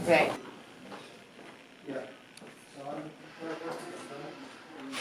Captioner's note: metallic humming